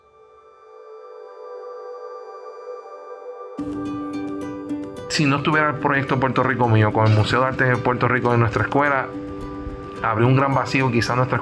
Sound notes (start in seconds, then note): 0.1 soft music; 5.6 speaks foreign language